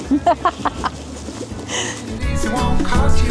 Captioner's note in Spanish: Risas